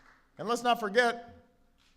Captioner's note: applause